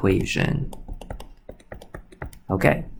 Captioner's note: computer mouse clicking